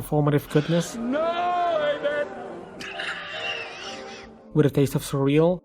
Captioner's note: laughs hysterically